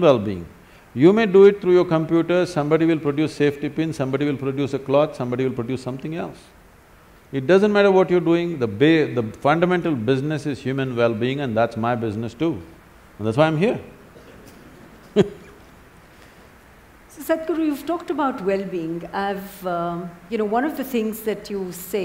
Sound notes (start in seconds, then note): 14.3 laughter